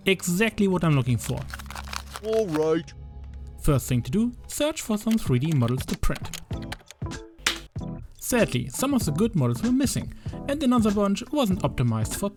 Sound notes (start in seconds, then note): 6.4 keyboard typing